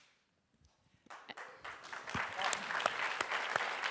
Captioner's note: applause